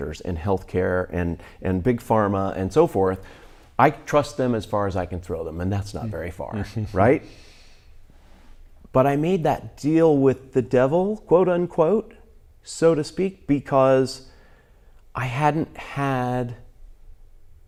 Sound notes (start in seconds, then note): 7.5 chuckles